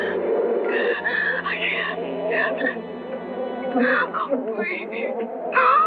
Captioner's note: sobbing